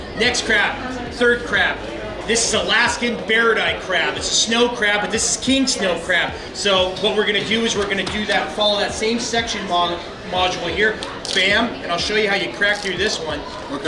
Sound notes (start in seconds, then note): none